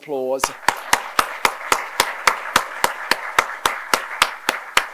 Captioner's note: applause